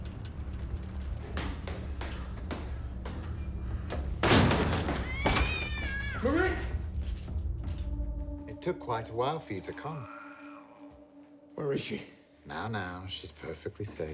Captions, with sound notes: (door thuds) (cat meows) Marie! - It took quite a while for you to come. - Where is she? - Now, now. She's perfectly safe.